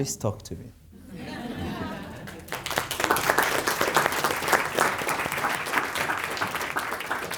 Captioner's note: audience laughing and clapping